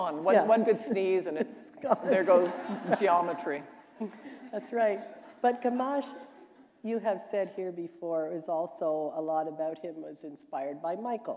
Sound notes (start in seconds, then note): 3.9 laughter